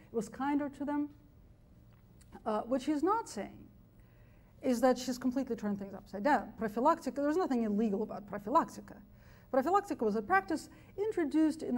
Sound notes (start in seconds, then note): 6.8 speaks foreign language